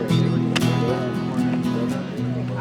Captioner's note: mud slaps